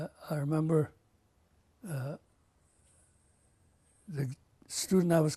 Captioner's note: pauses for 3 seconds